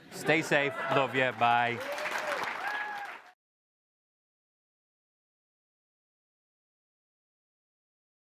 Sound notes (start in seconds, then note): 0.8 applause